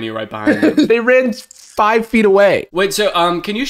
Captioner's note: laughs